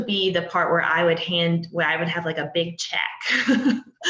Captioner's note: laughs